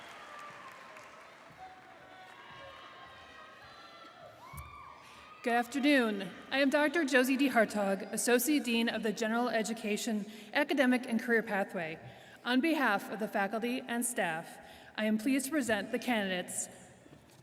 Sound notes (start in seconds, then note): 1.7 applause